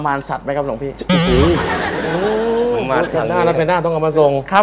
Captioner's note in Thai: เสียงหัวเราะ